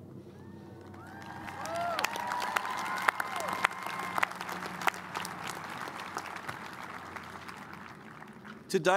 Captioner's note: cheers and applause